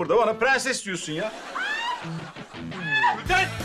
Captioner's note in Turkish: Gülden bağırma sesi